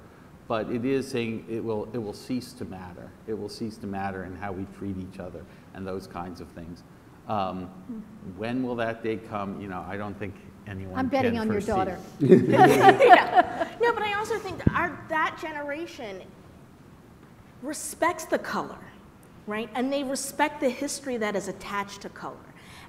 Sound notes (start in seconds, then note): 12.2 laughter